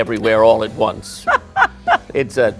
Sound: laughs

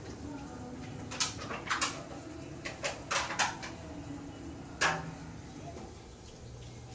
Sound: noise - kitchen work

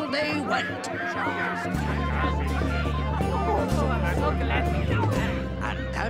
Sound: rats shouting

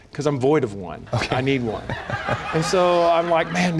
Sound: laughter

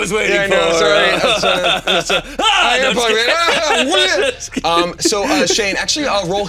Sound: laughing

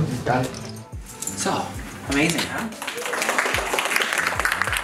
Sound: applause

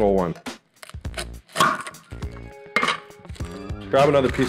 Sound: knife clanks

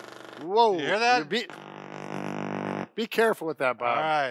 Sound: vibrating

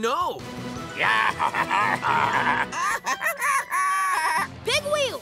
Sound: baaing

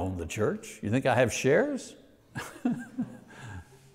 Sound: laughs lightly

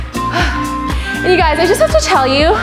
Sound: exhales

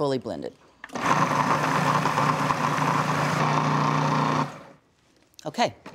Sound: processor whirring

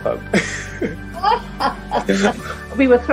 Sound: both laughs

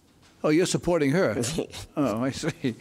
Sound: laughs

